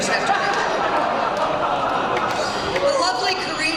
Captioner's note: laughter